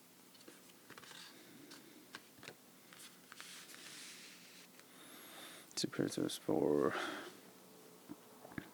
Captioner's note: breathing